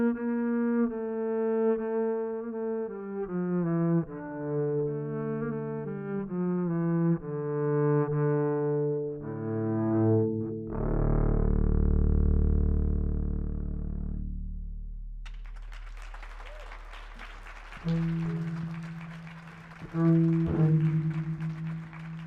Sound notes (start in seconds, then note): 15.1 double bass music ends; 15.2 people applauding